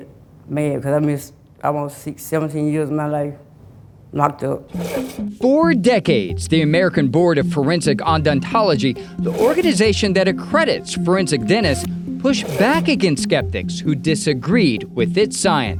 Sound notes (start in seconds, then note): 4.7 slide scrapes; 5.8 gentle upbeat music